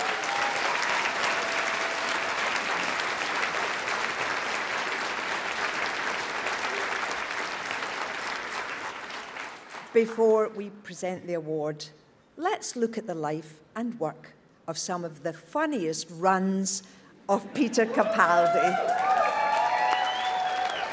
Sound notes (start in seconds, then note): 0.0 audience cheers; 18.0 applause